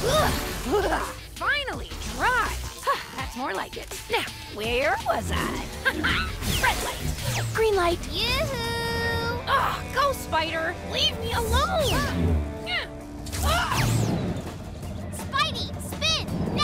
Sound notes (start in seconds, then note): 0.0 grunts; 11.7 grunts